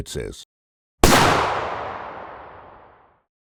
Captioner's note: gun shot